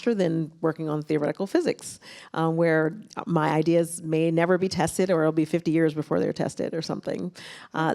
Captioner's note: none